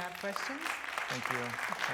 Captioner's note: applause